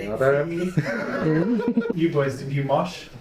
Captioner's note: laughing